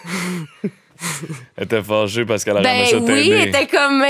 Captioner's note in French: rires